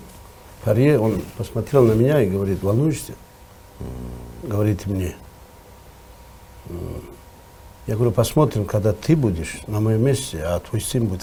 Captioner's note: laughs